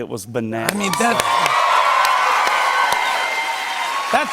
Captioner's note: cheers and applause